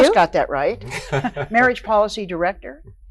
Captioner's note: laughs